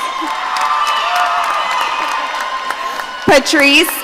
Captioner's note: audience cheering